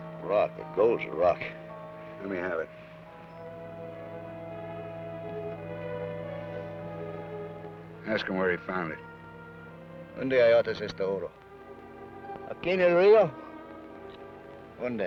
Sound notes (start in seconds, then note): 10.3 Ben speaks foreign language